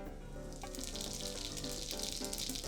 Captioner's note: sizzling